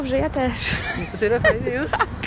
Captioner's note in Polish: mówi po hiszpańsku